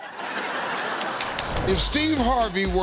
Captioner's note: laughter